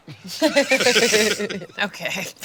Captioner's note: all laughing